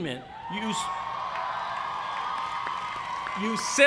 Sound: cheers and applause

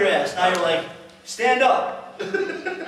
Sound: laughter

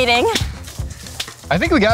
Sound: hands slap

